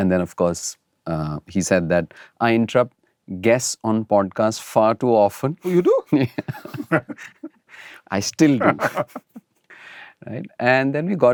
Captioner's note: laughter